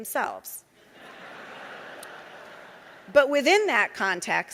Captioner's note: audience laughing